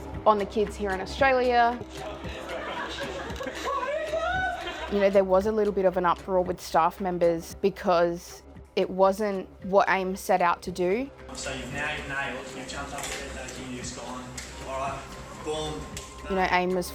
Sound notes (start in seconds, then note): 2.2 people chattering